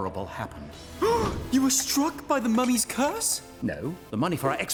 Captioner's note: gasps